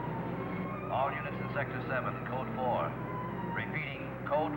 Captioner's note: man On Radio